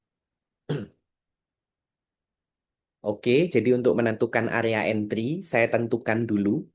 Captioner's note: berdehem